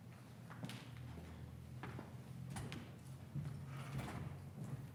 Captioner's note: footsteps plodding